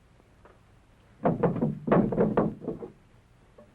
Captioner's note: wood rattling